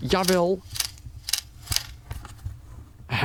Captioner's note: camerashutter clicks on remote command